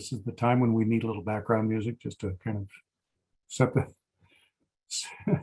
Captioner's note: laughs